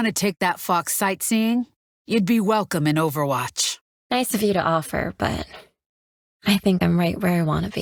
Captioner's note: laughs